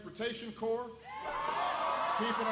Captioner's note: applause